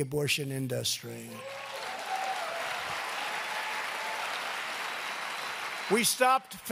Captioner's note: applause